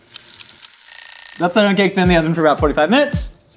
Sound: egg timer ringing

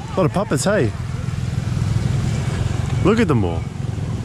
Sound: engine roaring

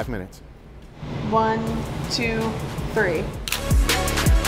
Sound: energetic music; camera shutter clicks

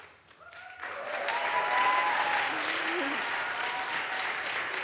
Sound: audience applauds

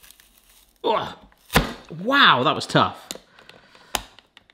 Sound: grunts

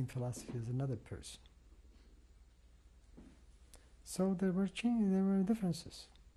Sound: pauses for 3 seconds

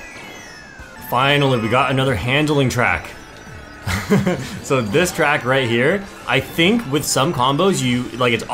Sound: laughs

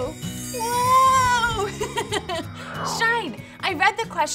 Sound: laughs

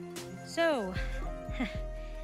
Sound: laughs nervously

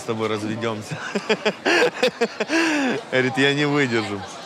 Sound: laughs

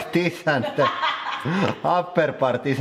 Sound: laughing

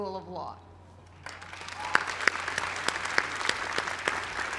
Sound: applause

